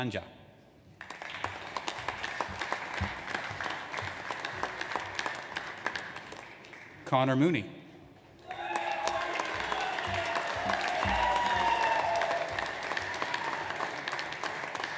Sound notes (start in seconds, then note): 1.0 audience applauds; 8.4 audience applauds